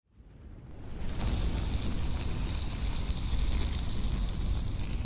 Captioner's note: flame whooshes, sparks crackle